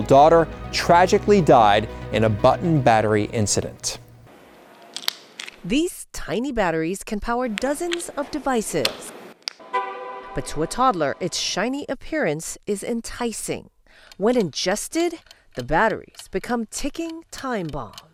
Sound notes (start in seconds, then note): 4.8 plastic cracks; 9.6 car beeps